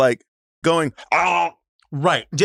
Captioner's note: imitates choking